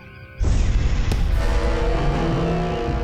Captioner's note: crash